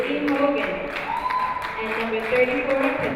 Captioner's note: crowd cheering